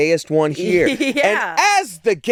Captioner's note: laughs